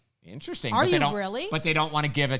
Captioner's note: laughing